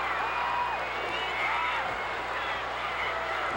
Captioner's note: cheers